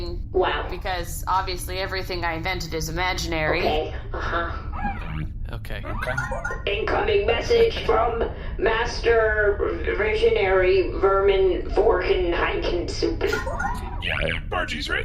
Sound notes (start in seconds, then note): 4.7 sound of incoming transmission